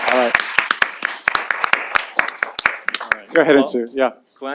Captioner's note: applause